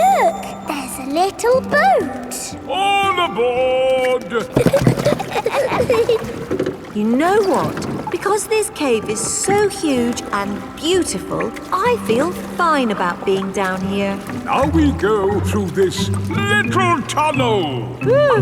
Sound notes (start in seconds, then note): 4.0 giggling